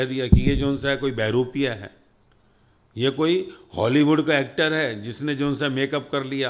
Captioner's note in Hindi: नाक से की जाने वाली आवाज़